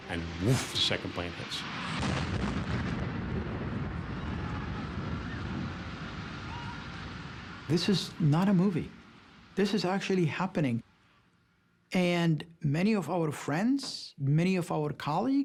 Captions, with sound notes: and, whoof, the second plane hits. [loud blast] [people shouting] - This is not a movie. This is actually happening. And many of our friends, many of our colleagues,